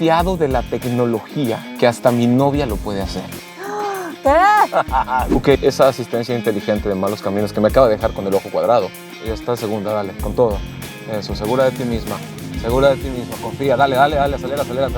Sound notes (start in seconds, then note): 3.5 sighs; 4.2 laughter